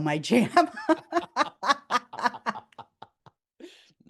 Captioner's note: laughter